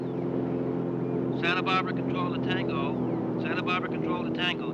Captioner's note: man On Radio